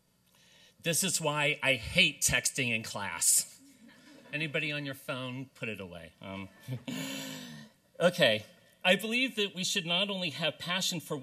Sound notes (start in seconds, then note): 3.9 laughter